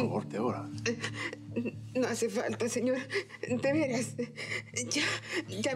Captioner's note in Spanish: sollozos